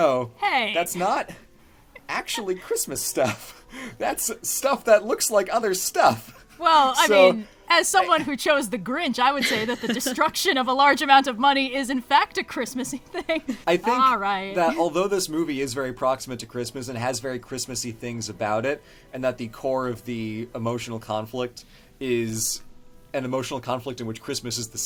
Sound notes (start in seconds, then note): 9.4 laughs